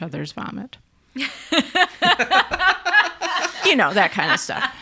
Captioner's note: laughing